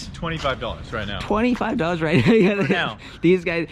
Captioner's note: laughing